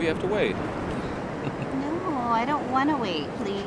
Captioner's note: chuckling